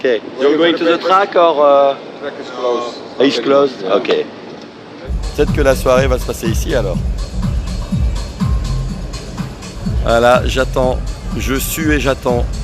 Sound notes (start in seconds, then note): none